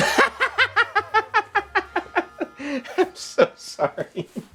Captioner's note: Irving laughs uncontrollably